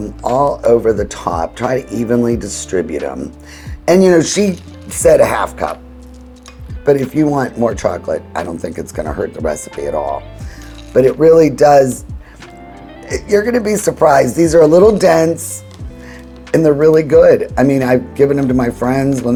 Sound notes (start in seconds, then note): 10.1 chocolate chips shuffling